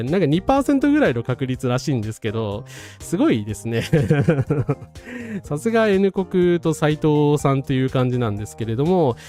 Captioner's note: laughs